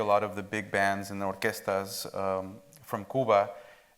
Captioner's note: speaks Spanish